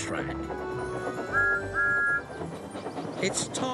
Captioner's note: train whistle blows